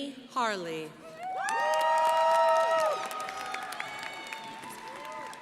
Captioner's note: crowd applauding